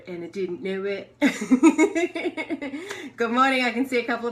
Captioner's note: laughter